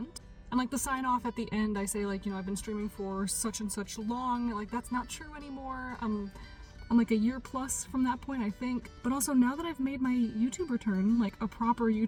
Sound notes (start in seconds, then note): none